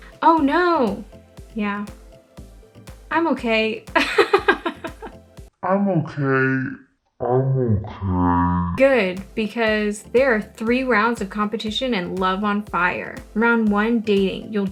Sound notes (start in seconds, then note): 3.7 laughing; 6.0 in slow motion, pitched lower